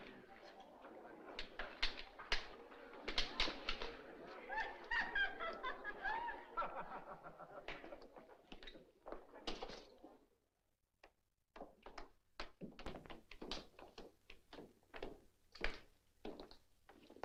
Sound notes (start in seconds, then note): 4.3 woman Giggles; 4.4 man Laughs